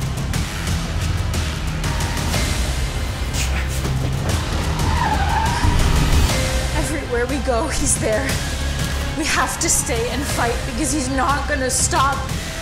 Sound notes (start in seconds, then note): 0.2 suspenseful music; 4.9 car tires squealing